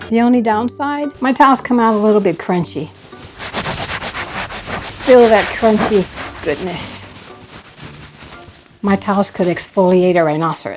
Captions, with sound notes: The only downside, my towels come out a little bit crunchy. (sandpaper rustling) Feel that crunchy goodness. My towels could exfoliate a rhinoceros.